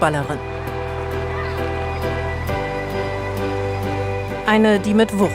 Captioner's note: applause